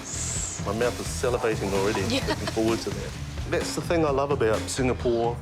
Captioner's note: chuckles; chuckles